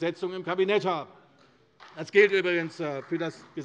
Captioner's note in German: Vereinzelter Beifall CDU